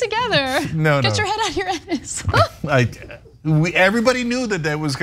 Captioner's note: laugh